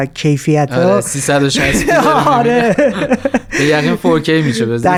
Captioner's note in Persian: خنده